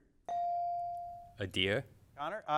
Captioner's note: bell dings